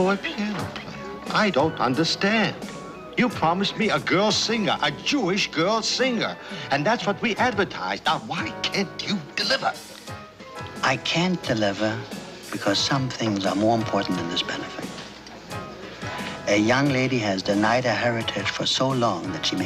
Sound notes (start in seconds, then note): none